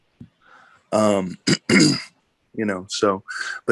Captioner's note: clears throat